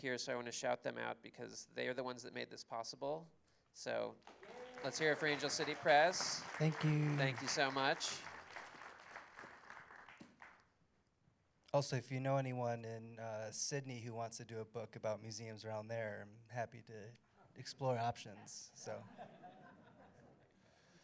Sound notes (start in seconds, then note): 4.2 applause; 18.7 laughter